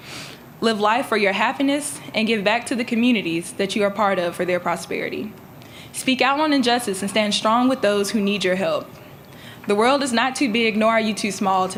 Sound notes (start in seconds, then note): none